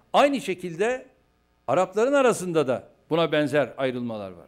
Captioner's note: non-english speech